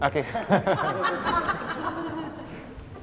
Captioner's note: laughs